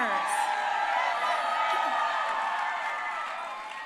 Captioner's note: crowd cheering